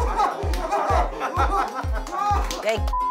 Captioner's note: super excited